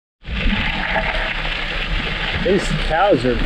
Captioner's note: camera crackling